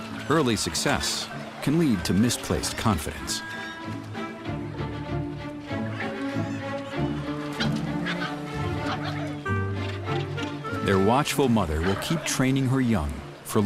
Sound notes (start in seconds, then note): 7.5 cub growls